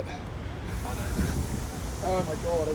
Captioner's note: train airing up